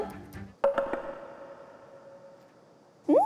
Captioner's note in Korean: 정적